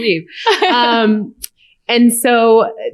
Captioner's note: laughter